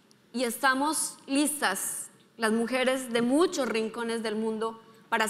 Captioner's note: speaking in foreign language